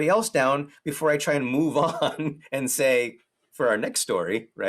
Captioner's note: laughs